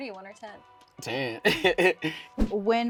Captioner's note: laughs